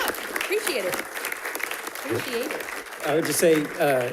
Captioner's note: audience applauding